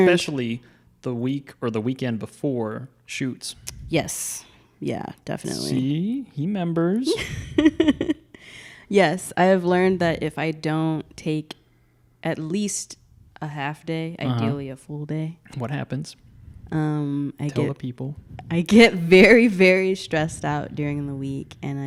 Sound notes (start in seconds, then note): 7.2 laughing